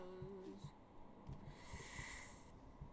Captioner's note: Inhale of where'd my Path of Pain skills go